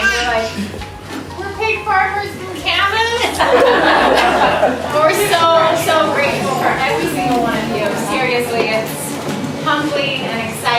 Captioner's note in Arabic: يضحك الحشد